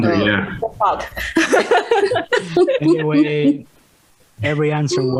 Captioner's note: risas